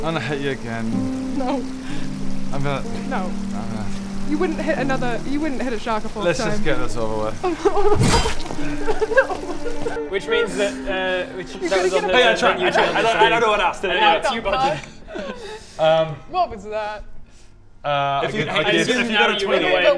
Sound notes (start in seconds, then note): 0.0 laughs; 7.9 smack!; 9.3 laugh cries